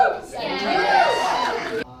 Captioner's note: audience cheers